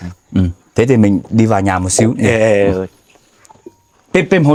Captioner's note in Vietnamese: hắng giọng